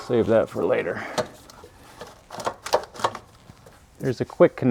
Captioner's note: drilling